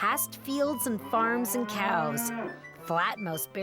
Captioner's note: mooing